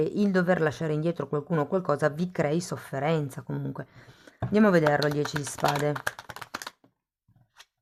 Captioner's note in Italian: Applauso